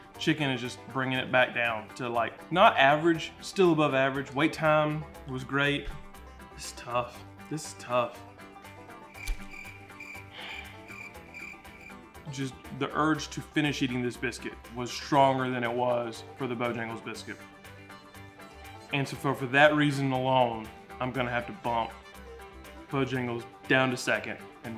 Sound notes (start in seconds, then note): 9.1 crickets chirping; 9.2 bright banjo music